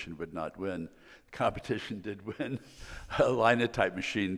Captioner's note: laughs